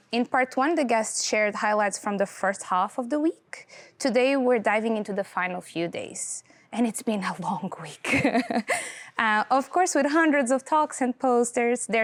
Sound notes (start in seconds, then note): 8.3 laughing